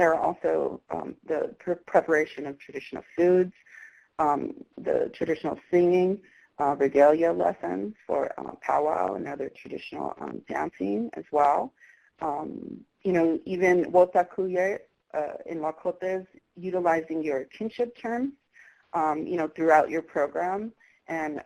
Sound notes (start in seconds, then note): 12.8 foreign language